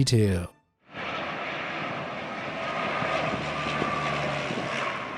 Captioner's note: plane engine humming